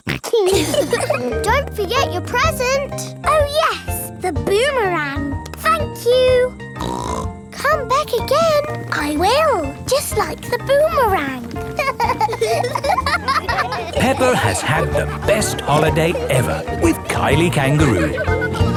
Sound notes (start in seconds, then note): 0.0 snorts; 0.2 laughs; 6.8 snorts; 11.6 laughing